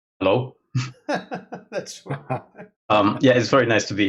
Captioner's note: laughing